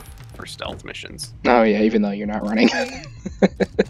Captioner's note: laughs